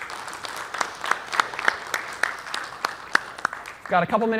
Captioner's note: applause